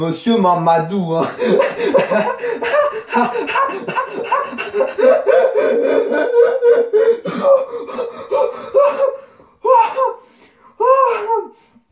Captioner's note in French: rire